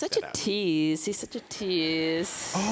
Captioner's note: audience laughing